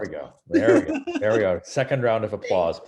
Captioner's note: laughs